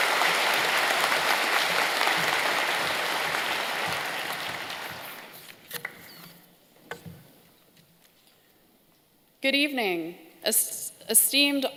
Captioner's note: applause